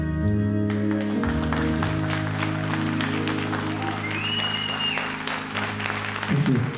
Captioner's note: all applauding